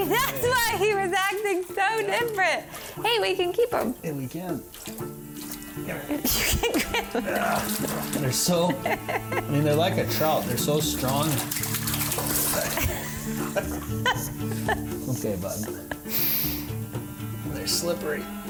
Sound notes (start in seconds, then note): 5.8 laughs; 7.2 grunting; 12.6 both laughing